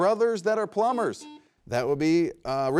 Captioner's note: buzzer beeps